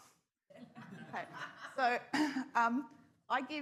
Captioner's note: scattered laughter